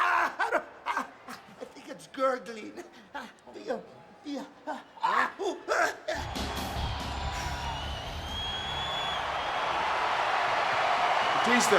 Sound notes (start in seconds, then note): 0.1 Eddie yelling; 5.4 Guerrero yelling; 8.7 crowd cheering